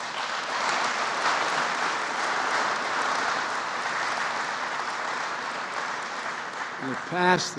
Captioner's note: applause